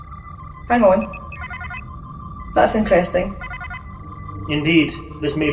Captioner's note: alarm